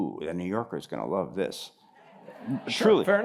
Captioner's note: laughter